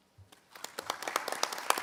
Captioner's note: applause